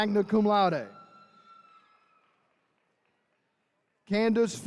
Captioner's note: attendees cheering